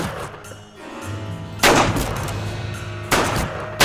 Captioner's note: gunfire